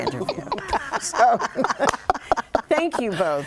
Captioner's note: laughing